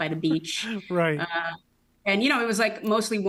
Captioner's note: laughs